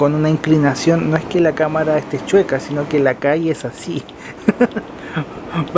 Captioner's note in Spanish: risas